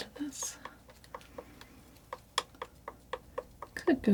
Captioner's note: scratching